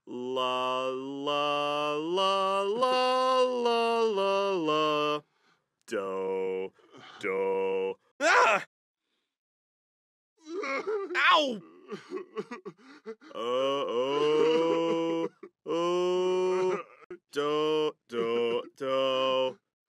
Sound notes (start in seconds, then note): 11.5 sobs even harder